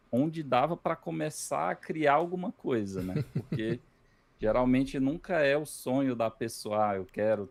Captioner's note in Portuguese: risadas